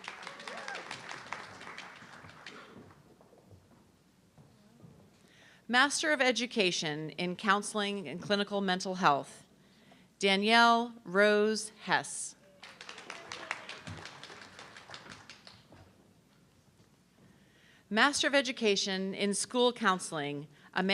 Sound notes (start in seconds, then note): 0.0 audience clapping; 12.5 audience clapping